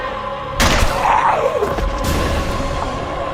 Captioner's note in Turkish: Silah patlar